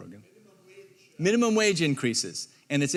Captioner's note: speaking off microphone